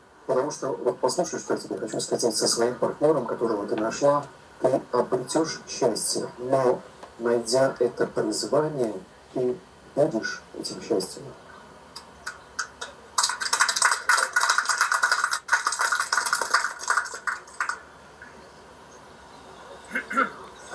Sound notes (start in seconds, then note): 13.1 clapping